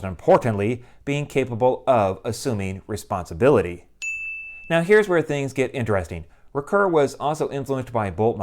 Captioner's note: chime